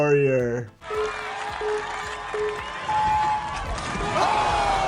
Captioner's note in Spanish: la audiencia aplaude